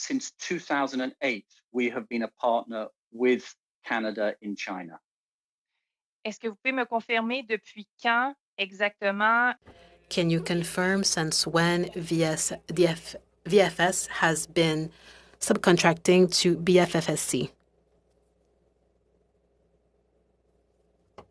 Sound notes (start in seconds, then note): 12.7 speaking french